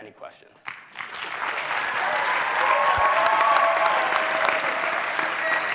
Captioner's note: audience clapping and cheering